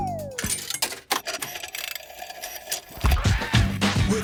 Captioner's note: clicks, whirring; hip hop music plays